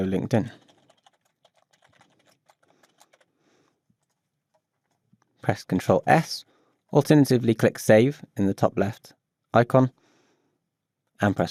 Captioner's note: keyboard clicking